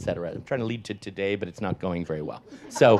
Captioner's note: audience laughs